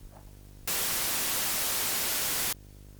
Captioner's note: static